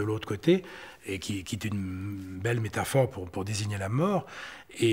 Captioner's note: French spoken audio